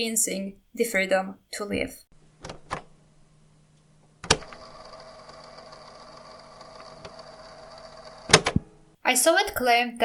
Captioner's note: cassette sound